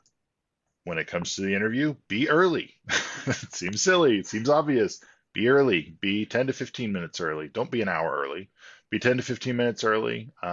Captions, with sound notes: When it comes to the interview, be early. (laughs) it seems silly, it seems obvious. Be early, be 10 to 15 minutes early. Don't be an hour early, be 10 to 15 minutes early